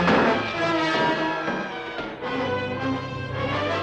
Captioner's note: boards thudding